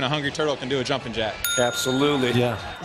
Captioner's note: ding!